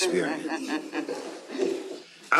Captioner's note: chuckling